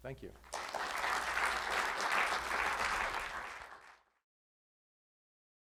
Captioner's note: audience applauding